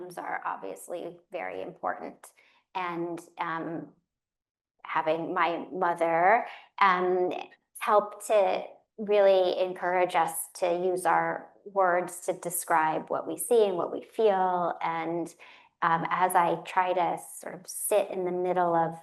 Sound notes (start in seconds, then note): none